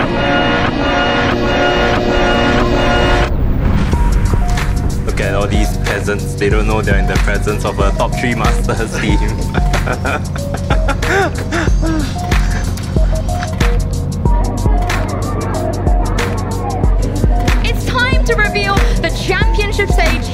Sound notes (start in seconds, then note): 0.0 upbeat music; 11.1 laughs; 14.2 crowd chattering